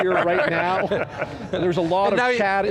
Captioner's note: laughter